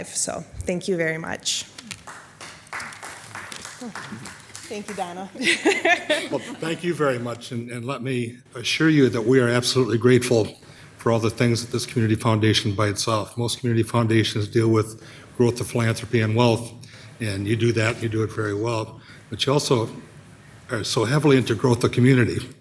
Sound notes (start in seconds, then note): 1.8 people applauding